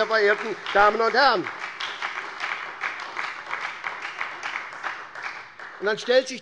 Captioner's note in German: Beifall bei der SPD und der FDP